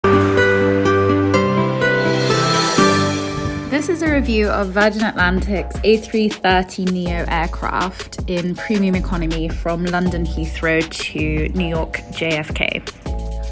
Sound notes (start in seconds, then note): 0.1 airplane whooshing; 0.1 rhythmic music